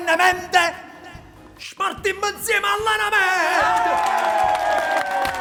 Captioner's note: applause and shouts